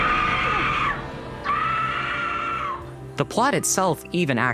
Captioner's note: scream